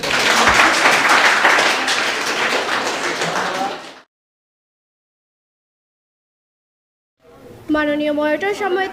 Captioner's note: applause